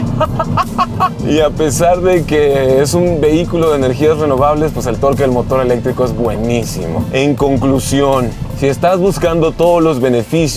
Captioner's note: laughter